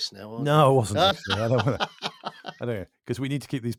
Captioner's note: laughs